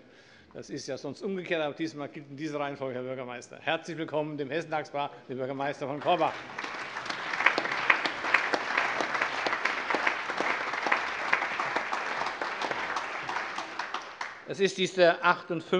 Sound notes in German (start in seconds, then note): 8.5 Allgemeiner Beifall